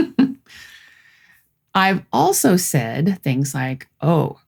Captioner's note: laughs